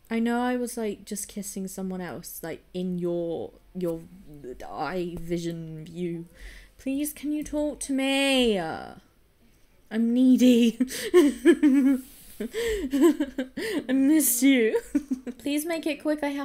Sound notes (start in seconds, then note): 12.4 laughs